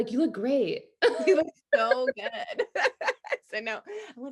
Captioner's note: both laughing